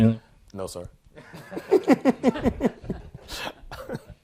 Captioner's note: laughter